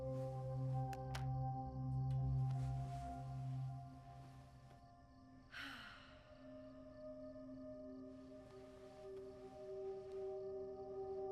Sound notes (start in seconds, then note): 5.5 sighs